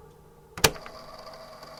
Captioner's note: click